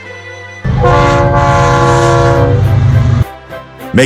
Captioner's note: horn